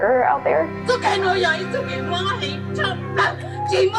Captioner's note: non-english